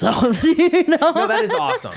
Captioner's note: laughing